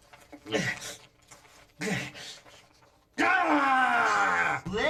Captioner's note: grunting